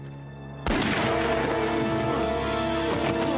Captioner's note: gun firing; dramatic synthesized music